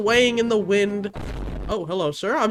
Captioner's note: dramatic booming